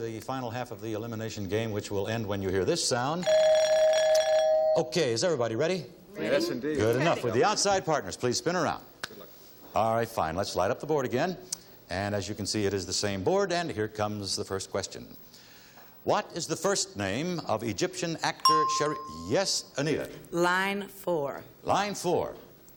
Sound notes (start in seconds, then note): 3.3 bell chiming; 18.4 ding